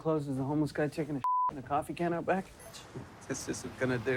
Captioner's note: beep